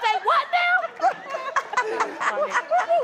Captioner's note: laughter